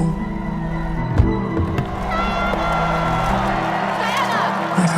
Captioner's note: crowd cheering